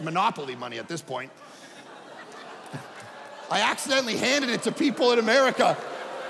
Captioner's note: audience laughing